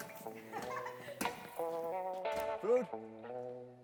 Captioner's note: mellow, jazzy music; woman laughing